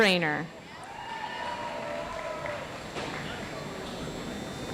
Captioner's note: audience applauds